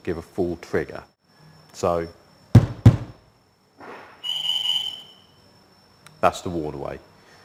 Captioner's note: bangs window twice